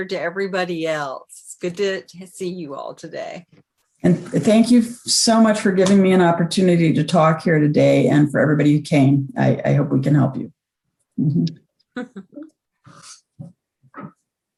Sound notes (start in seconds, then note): 12.0 laughs